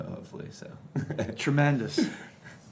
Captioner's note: chuckling